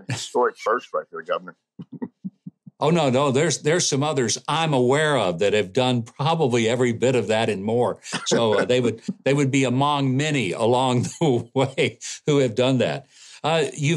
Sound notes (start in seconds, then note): 0.0 laughing; 8.0 laughs; 9.9 laughing; 10.2 laughs